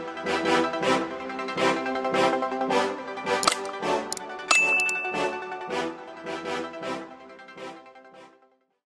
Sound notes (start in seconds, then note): 0.2 bright music; 4.5 computer clicking and dinging